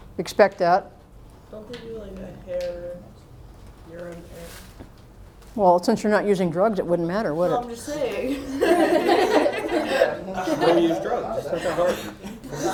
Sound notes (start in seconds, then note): 8.3 laughter